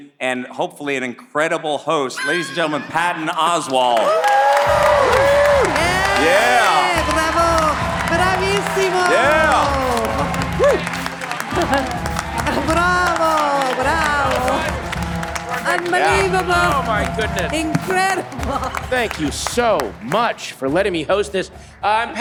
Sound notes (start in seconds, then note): 4.2 all clapping and cheering; 7.4 Patricia speaking in foreign language